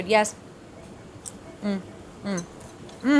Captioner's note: chip crunches